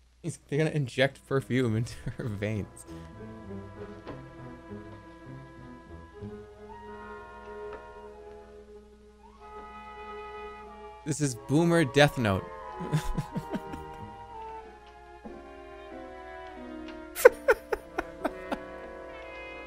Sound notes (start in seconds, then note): 12.8 chuckles; 17.1 laughs